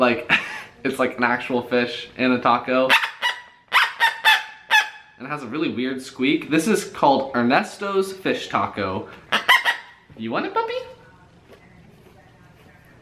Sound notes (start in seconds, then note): 3.3 squeaking noises; 9.3 more Squeak Noises